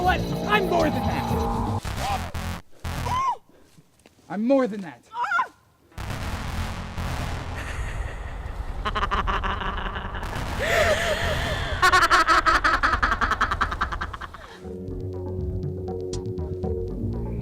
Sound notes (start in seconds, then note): 5.1 Nova screams; 7.6 insane laughing